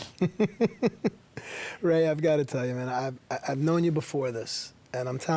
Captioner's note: laugh